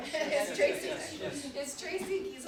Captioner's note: audience and panelists energetically chattering